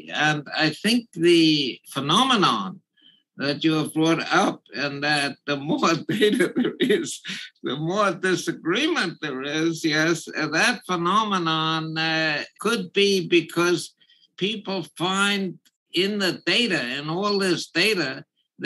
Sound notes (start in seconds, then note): 6.0 laugh